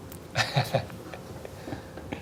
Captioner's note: cute laughing